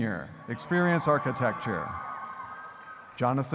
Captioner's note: audience cheering